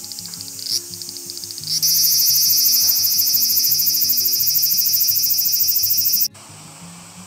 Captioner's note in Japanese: アブラゼミの鳴き声